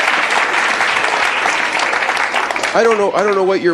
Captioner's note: audience applauding